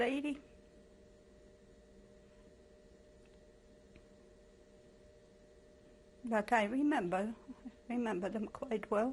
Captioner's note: pauses for 6 seconds